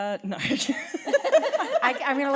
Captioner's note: laughter